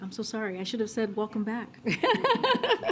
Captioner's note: laughs